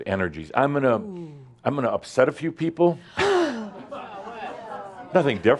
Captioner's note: gasps